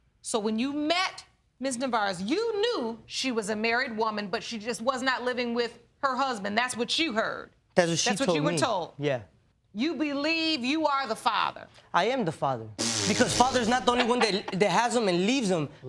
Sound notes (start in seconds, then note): 12.8 blowing raspberries